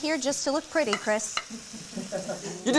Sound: chuckling

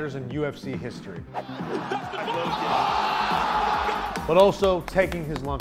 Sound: crowd yelling

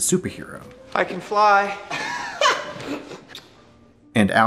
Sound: laughs

